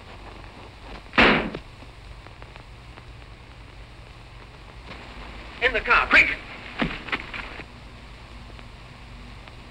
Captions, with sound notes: [gunshot] In the car, quick!